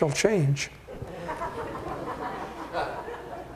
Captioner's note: laughing